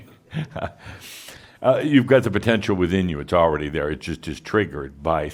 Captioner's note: Adamus chuckles